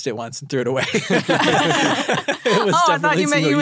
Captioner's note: all laugh